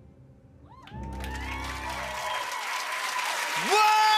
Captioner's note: cheers and applause